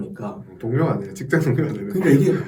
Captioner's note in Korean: ㅋㅋ